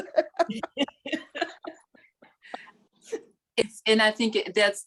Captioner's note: chuckling